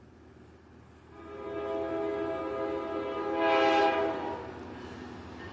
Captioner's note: hoooooooooooorrrrrrrrrrrrrrnnn